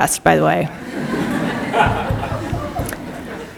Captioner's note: laughter